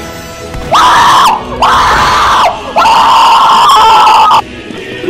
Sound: screaming

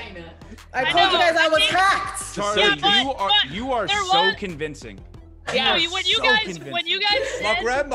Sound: laugh

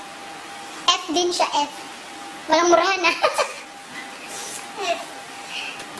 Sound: haha

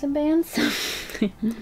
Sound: laughs

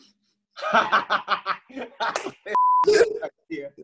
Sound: laughing

